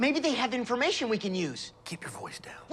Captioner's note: whispering